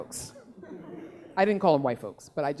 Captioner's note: laughing